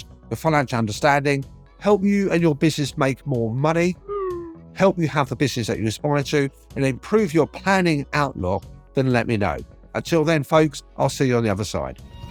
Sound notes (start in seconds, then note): 4.0 screen beeping